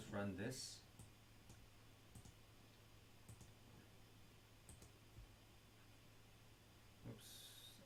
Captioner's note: clicking Sounds